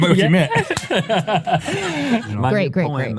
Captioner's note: laughing